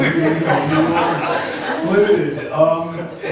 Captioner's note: laughs